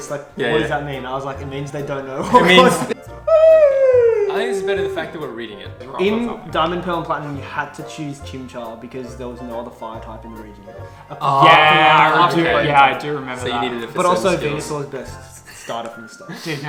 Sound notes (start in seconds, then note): 3.2 yawns